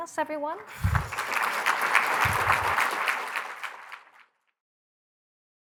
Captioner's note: applause